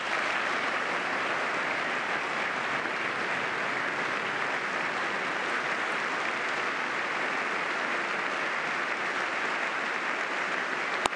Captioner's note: applause